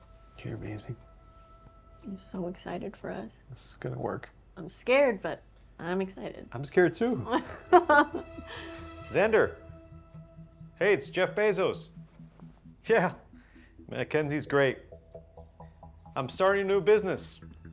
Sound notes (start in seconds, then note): 7.4 chuckles